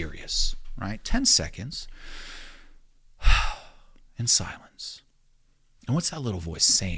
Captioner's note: sighing